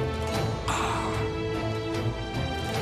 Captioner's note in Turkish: İnleme sesi